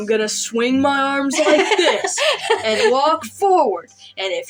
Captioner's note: laugh